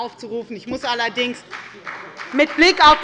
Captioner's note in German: Beifall bei der FDP und der CDU